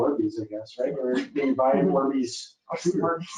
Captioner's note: speaking faintly